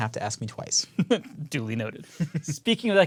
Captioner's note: laugh